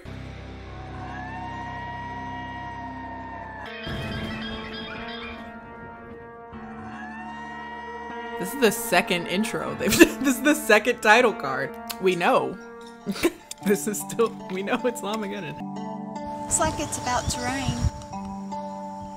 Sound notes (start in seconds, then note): 0.0 laughing; 0.2 suspenseful music; 3.9 llama alarm cries; 5.5 suspenseful music continues; 13.7 laughing